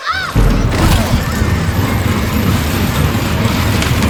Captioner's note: chains rattle